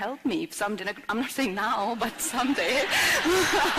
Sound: laughter/Applause

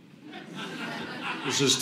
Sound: audience laughing

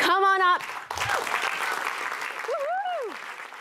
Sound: applause

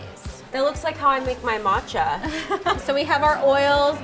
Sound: laughs

